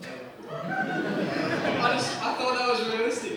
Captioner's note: laughter